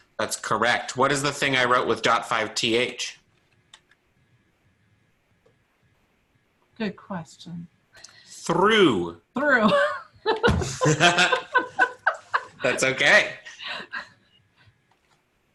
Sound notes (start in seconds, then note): 10.2 laughs